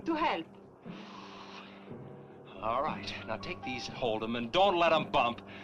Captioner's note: sighing